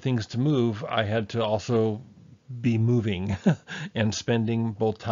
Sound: laughs

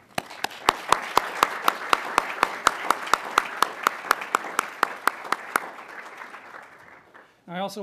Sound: applause

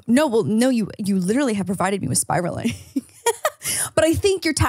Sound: laughs

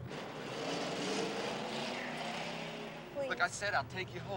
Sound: engine revs

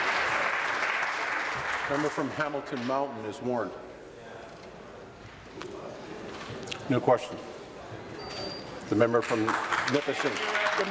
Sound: applause

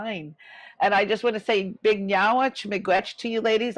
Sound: speaking in foreign language

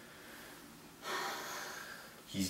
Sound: sighs

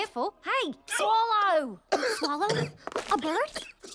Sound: gagging

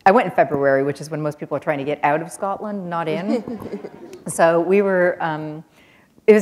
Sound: chuckle

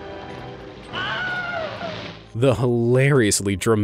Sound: frightful screaming

